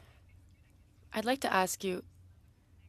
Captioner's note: speaking French